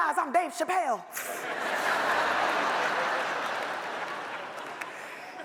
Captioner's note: audience laughs